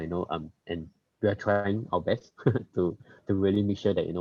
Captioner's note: laughs